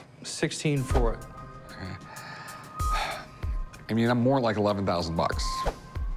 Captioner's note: sighs